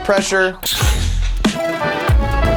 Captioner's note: cannon firing; smooth music